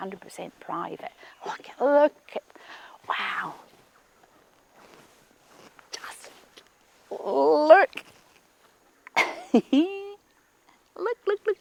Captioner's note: chuckles